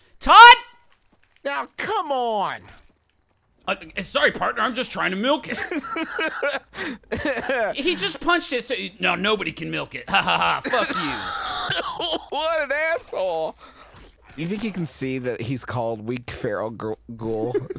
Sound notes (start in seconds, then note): 5.4 laughing; 10.1 coughing and laughing